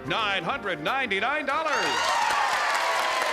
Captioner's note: applause and cheering